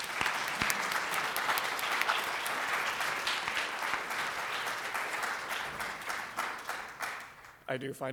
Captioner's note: audience applauding